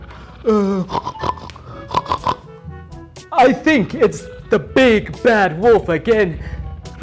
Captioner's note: pig snorts